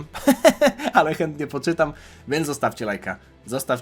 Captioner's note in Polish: śmiech